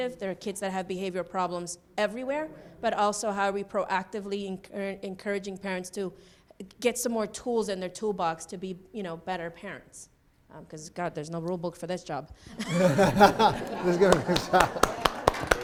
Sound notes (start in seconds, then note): 12.5 laughing